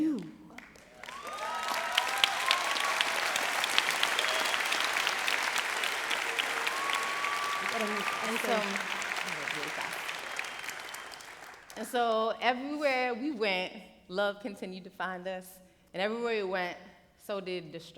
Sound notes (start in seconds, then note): 1.0 applause